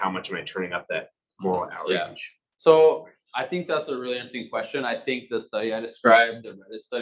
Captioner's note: male Voice